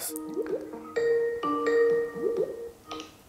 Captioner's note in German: Skype-Klingelton